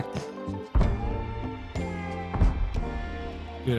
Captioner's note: explosions in distance